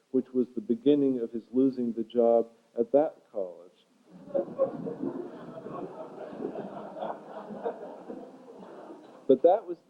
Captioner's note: laughter